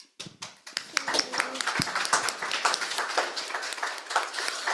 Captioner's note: audience clapping